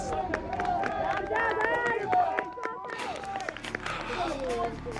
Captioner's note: all cheering